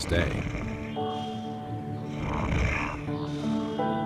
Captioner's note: bear snores